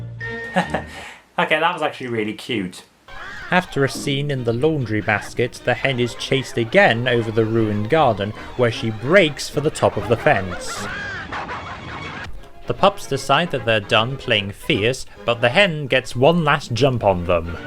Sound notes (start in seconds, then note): 0.4 chuckles; 10.6 pups barking; 10.6 squawking; 17.1 squawks loudly